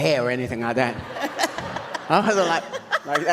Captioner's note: audience laughs